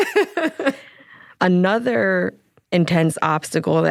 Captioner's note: both laughing